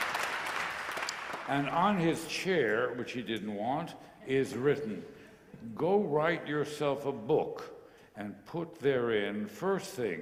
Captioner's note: applause